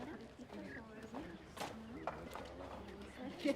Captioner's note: murmured conversation